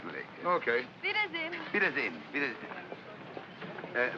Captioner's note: bidding farewell in German; speaking in German